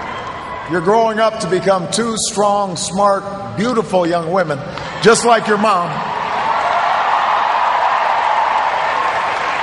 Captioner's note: cheers, applause